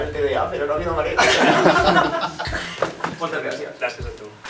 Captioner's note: laughs